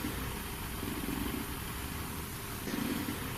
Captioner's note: growling